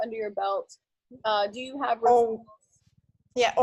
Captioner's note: voice fades